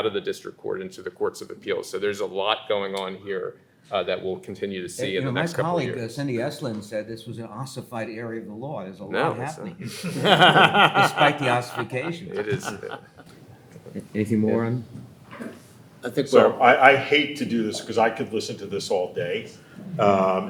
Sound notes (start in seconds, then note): 9.8 laughing